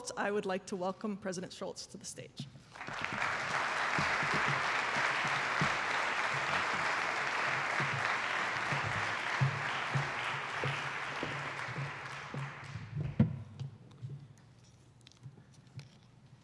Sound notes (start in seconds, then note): 3.0 attendees applauding